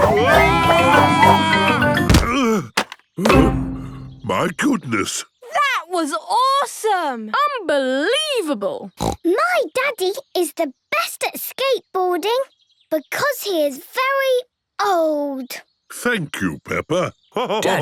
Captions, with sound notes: Whoa! Ugh! (panting) My goodness. - That was awesome! - Unbelievable! (snorts) - My Daddy is the best at skateboarding because he is very old! - Thank you, Peppa!